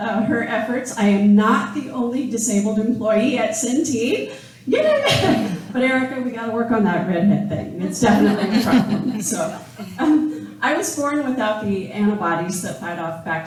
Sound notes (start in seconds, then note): 8.0 laughing